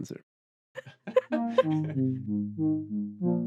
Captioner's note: laughter